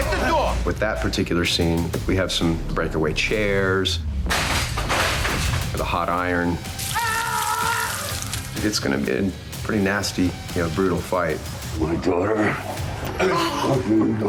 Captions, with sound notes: With that particular scene, we have some breakaway chairs. -We have a hot iron. -[Nico screaming] [flesh sizzling] It's gonna be a pretty nasty, brutal fight. -My daughter? -[Nico moaning]